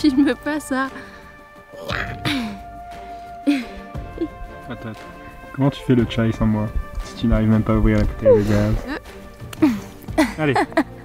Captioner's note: laughs